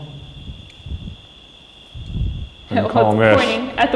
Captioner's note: crickets chirping